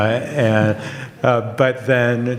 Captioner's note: audience laughs